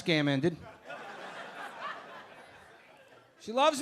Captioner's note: audience laughing